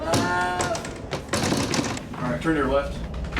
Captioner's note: banging on door